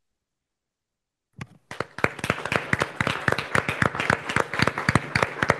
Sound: audience applauding

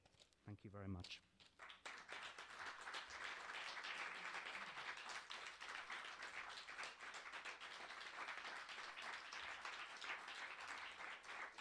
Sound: applause

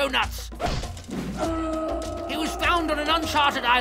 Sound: screaming in pain

